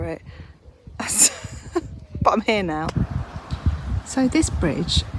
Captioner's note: laughs